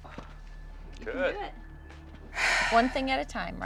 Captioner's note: sighs